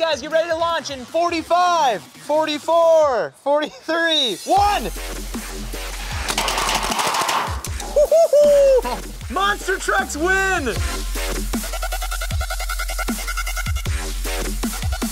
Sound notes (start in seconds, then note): 6.2 cars clattering; 11.3 energetic electronic music